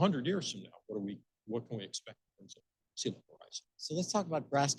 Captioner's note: speaking faintly